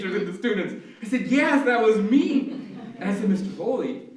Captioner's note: laughter